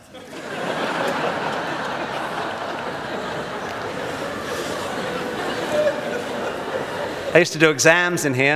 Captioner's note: audience laughs